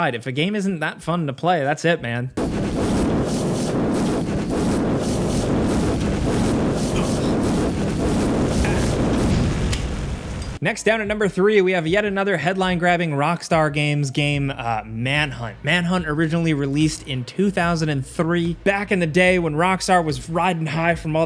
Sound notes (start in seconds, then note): 2.4 fire roaring; 7.0 Postal Dude grunting